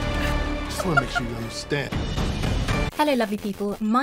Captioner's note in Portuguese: risos